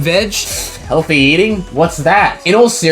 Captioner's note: scoffs